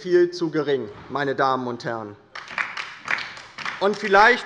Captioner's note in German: Beifall bei der LINKEN